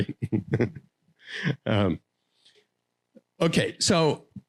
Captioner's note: laughing